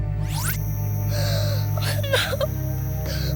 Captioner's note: gasps